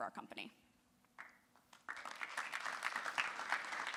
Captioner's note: applause